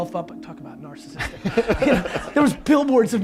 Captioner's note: laughs